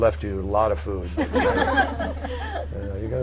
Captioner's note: laughter